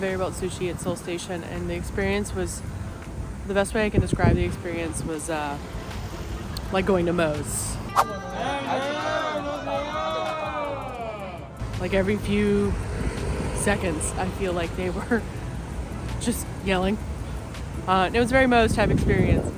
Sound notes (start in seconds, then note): 8.2 shouting Greetings